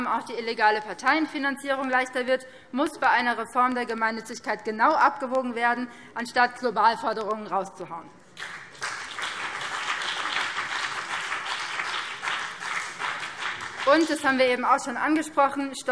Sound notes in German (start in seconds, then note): 8.3 Beifall BÜNDNIS 90/DIE GRÜNEN